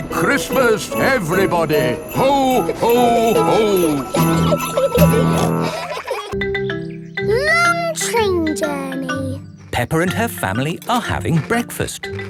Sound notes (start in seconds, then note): 4.7 children giggling; 4.7 peppa snorts